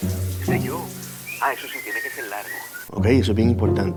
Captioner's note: Otto on cell phone